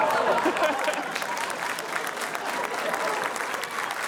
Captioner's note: applause; laughs